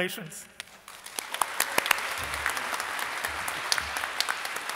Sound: audience applauding

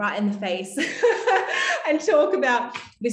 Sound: laughing

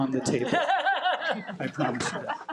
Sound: audience laughs

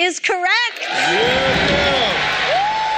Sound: cheering

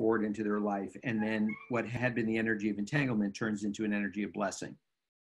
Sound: guest Appearance: notification sound

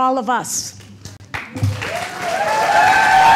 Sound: applause

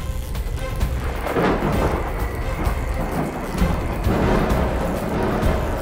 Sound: rumbling thunder

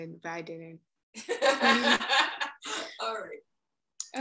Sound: laughing

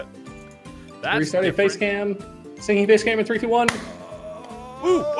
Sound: claps

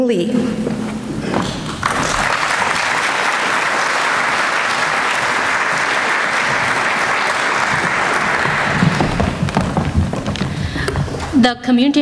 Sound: applause

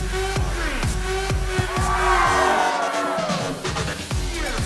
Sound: cheering

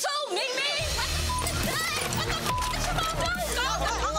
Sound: frenzied shouting

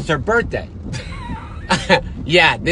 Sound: laughing

